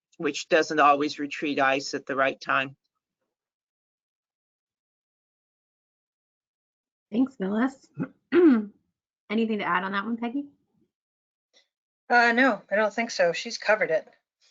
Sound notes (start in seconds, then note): 8.0 clears throat